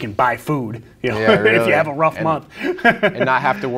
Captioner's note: laughing